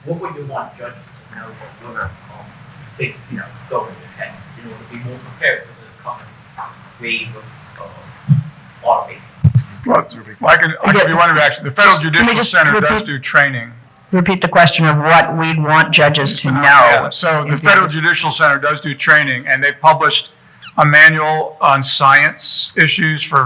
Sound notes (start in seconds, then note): 2.0 speaking faintly; 4.0 speaks quietly